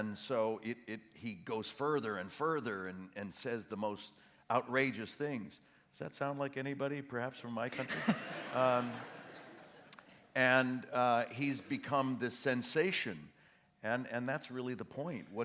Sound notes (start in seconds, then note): 7.7 laughter